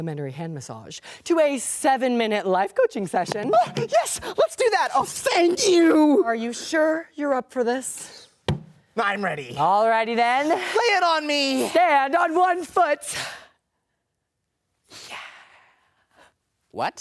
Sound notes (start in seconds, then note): 8.4 thuds